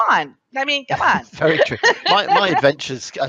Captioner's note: laughs